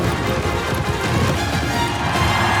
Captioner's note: cheering